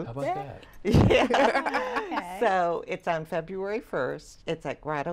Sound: laughter

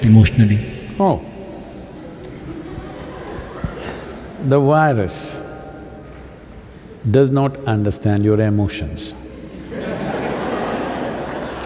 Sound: laughter

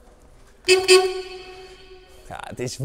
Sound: klaxon

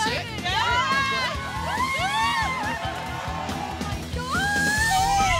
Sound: crowd cheers

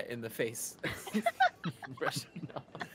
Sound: chuckling

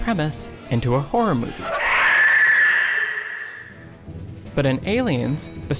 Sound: high-pitched screaming

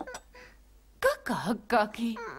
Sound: clucks

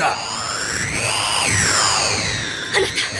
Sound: SFX: spell sound

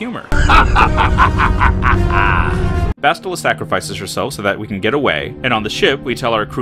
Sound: Malak laughs

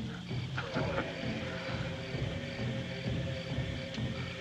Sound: chuckles

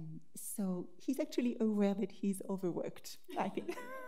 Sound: laughs

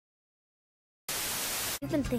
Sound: TV static

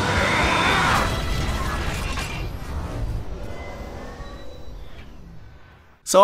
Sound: mechanical Sounds

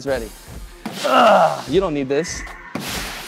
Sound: grunts

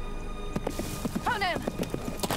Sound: horse trotting

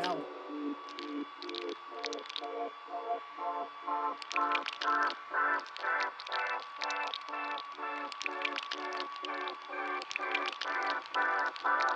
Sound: wax dripping sounds

